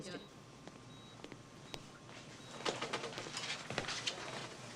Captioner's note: machine beeps